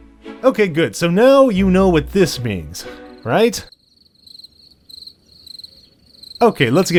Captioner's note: crickets